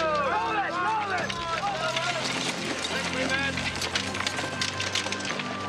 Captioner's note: solemn music; yelling